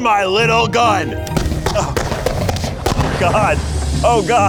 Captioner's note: fireworks popping